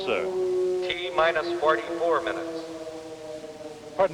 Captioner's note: man on PA